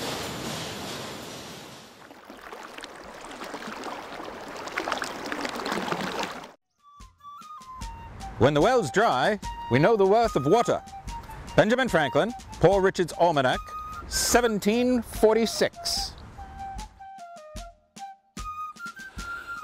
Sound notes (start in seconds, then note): 2.0 water running